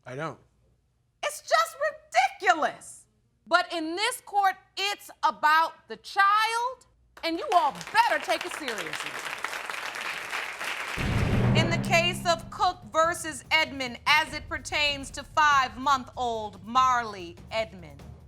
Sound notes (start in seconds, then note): 7.2 audience clapping